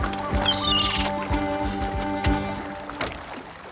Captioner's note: cawing